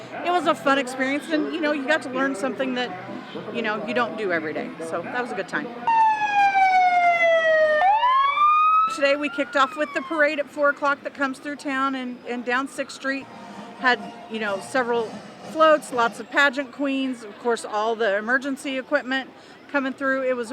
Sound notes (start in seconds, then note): 5.8 fire truck siren